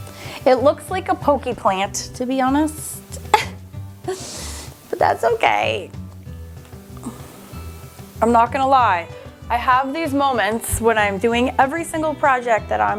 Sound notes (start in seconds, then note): 3.5 laughs